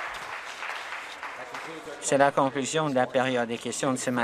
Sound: some Applause

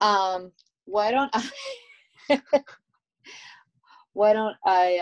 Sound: laughs

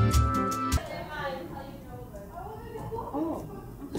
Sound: people chatting

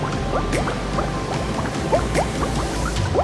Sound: none

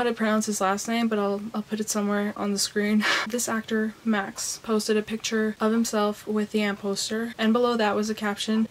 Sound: laughs

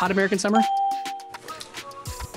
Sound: bell rings

